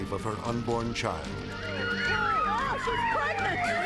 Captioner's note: sirens blaring